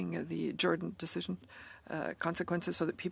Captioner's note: speaking French